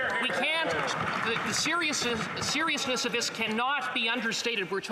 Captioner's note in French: voix de l'interprète